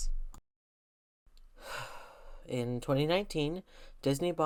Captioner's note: sigh